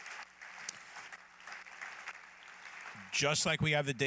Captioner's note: applause